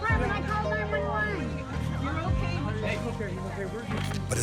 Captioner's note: indistinct chatter